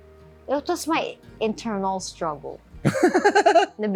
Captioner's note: laughs